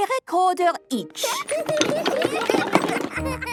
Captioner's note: laughter